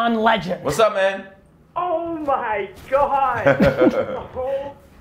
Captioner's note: laughing